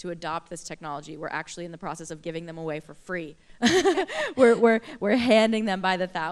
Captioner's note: laughter